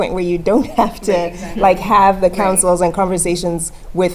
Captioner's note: laugh